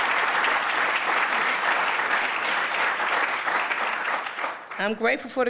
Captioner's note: applause